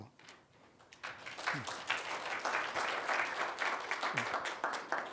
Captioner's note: applause